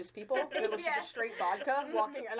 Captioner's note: laughing